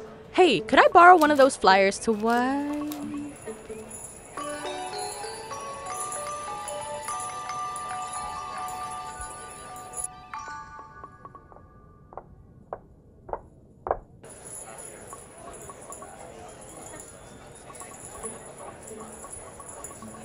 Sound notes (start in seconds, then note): 4.7 quirky music; 13.8 footsteps pounding; 14.3 crowd chattering